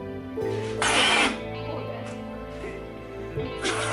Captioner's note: loud whizzing